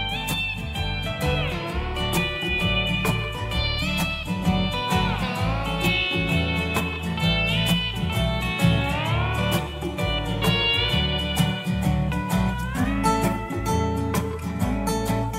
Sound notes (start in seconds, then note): 7.1 airplane noises